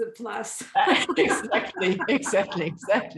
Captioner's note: laughing